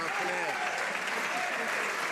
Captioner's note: some Applause